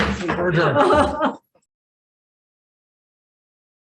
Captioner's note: chair hammers table